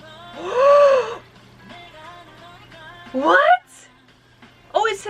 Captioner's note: gasps